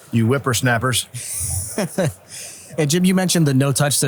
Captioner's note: chuckles